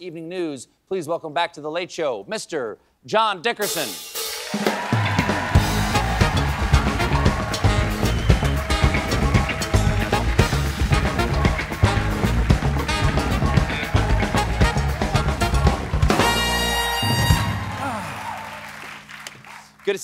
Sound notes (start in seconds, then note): 4.3 cheers and applause